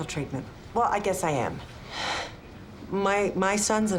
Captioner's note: sighs